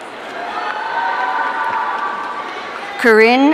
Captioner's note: audience cheering